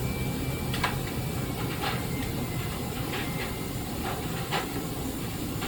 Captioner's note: floorboards creaking